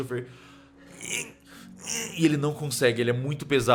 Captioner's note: sounds of struggle